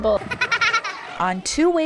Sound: laugh

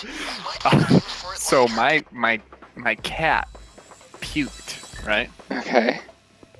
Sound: laughs

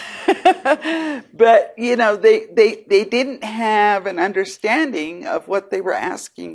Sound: laughs

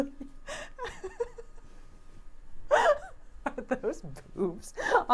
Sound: laughing

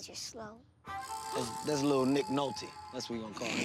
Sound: gasps

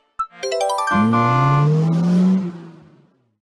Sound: horn and acceleration

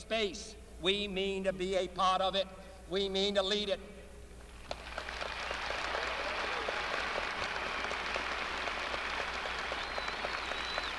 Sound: applause

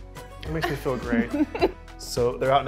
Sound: upbeat music; laughs

